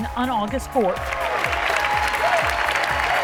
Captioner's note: cheers and applause